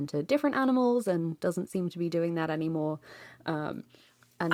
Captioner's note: none